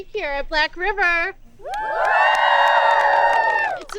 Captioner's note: campers applauding